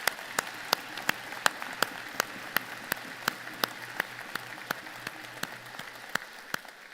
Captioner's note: applause